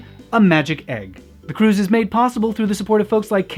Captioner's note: gasp